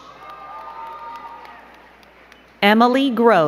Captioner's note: crowd cheering and clapping